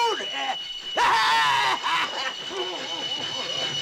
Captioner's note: Train tracks screeching, Prophet screaming